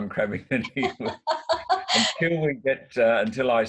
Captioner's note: laughs; laughs loudly